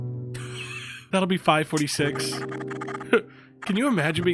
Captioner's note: laughs